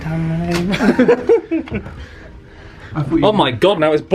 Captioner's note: both laughing